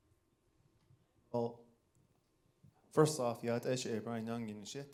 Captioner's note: speaking in foreign language